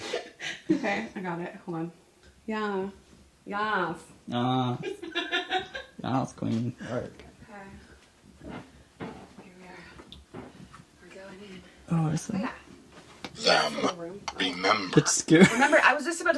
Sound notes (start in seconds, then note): 5.0 laughing